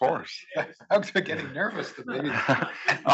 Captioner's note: laugh